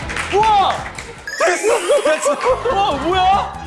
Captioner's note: giggle